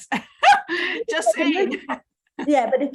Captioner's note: chuckles